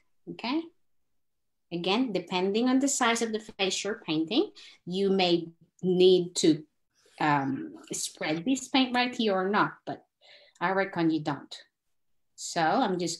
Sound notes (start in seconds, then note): none